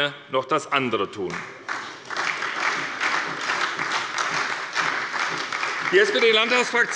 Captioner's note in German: Beifall bei der SPD